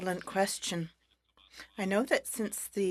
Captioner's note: speaking French